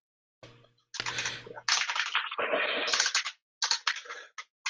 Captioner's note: keyboard keys clanking